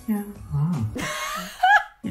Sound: laughs

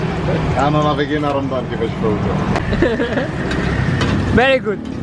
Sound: giggles

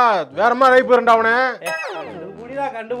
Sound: Warning in Kurt Wagner style

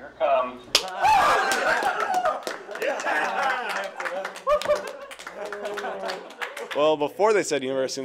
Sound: applause and celebration

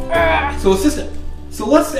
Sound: grunts

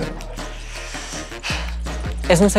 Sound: inhales; speaking Spanish

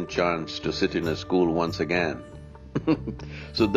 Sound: laughs

